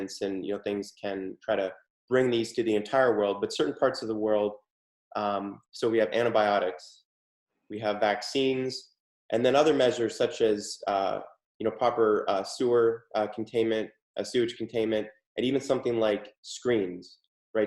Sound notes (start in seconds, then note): none